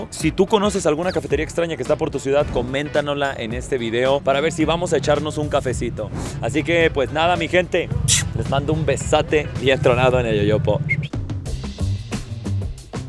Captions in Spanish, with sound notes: Si tú conoces alguna cafetería extraña que está por tu ciudad, coméntanosla en este video para ver si vamos a echarnos un cafecito. Así que pues nada, mi gente, les mando un besote bien tronado en el yoyopo. [chiflido de despedida]